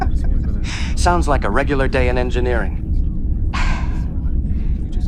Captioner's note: chuckling